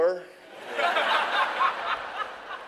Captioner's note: laughing